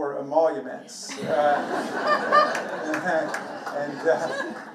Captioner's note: everybody laughing